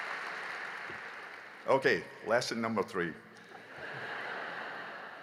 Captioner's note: applause; laughter